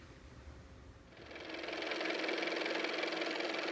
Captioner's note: car motor